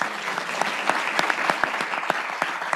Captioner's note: applause